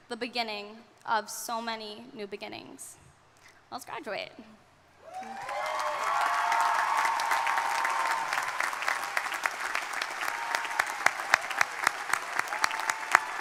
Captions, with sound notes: The beginning of so many new beginnings. Let's graduate. (crowd cheering) (crowd applauding)